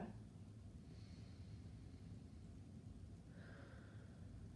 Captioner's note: breathing deeply